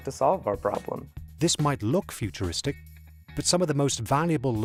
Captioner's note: voiceover